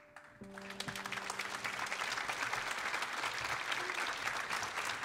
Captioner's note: audience applauding